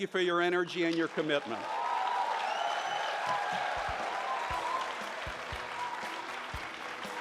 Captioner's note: upbeat music; audience cheers